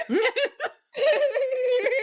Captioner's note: both laughing